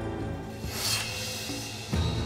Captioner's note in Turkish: Kılıç çekme sesi